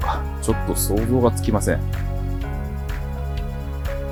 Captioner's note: laughs